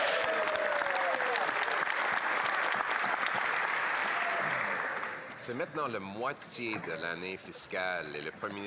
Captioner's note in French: voix de l'interprète